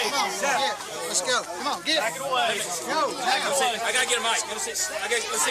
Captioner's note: crowd chatter